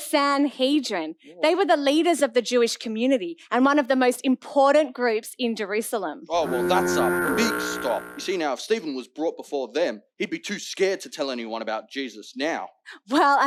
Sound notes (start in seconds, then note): 6.4 honking